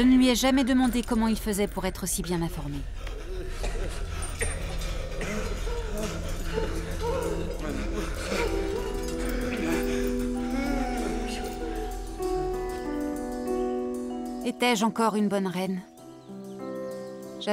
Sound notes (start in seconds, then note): 5.1 woman sobs; 9.6 dramatic music